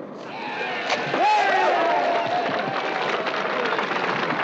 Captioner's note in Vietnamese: Tiếng reo hò cổ vũ